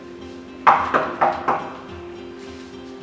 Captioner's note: knocks on the door